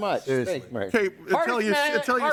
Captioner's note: group chattering